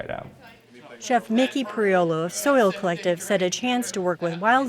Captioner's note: voiceover